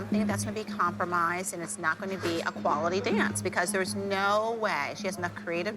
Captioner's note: none